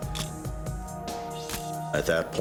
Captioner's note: camera shutter click